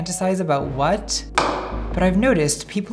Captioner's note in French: bong